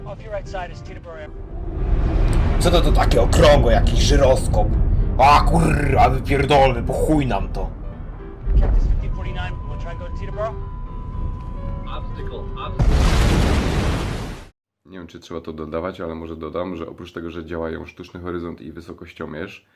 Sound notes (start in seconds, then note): 8.3 plane crashing into water; 8.3 sound alert